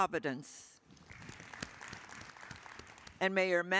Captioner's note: attendees applauding